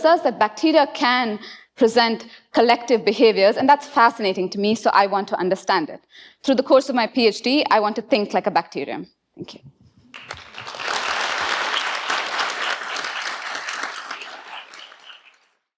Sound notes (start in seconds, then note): 10.1 audience applauding